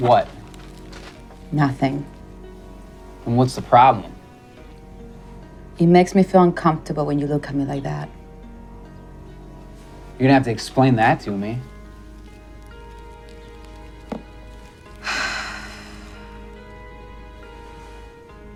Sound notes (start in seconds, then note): 11.9 gentle piano music; 14.9 sighs